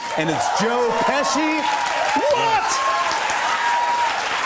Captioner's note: cheers and applause